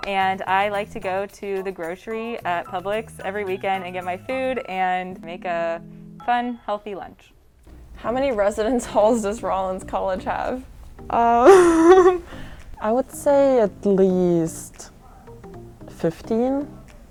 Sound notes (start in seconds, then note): 11.4 laughs